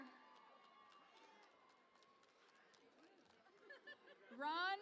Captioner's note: cheering and Applause